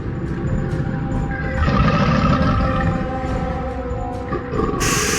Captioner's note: creature growling